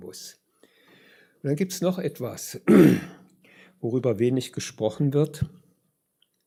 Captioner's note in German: räuspern